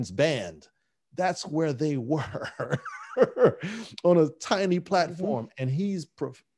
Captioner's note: laughing